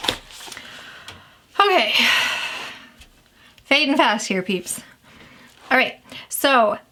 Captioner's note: sighs